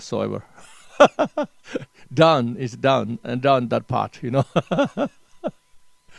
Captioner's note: laughs